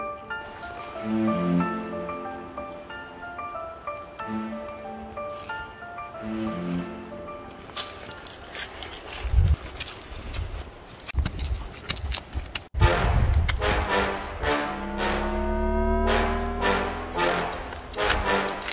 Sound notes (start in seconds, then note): 6.2 music fades; 10.2 hopping footsteps; 13.8 hypnotic sounds